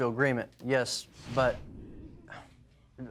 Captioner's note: sighs